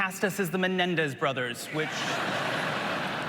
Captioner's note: applause